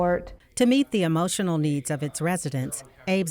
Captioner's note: voiceover